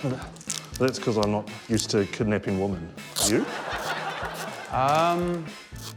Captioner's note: audience laughs